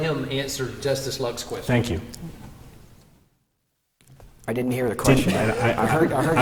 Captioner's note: laughter